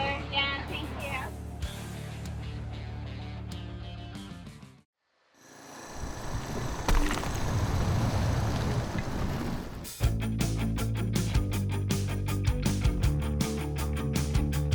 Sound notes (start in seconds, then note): 6.8 concrete scraping; 9.8 upbeat music